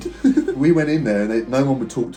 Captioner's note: laughs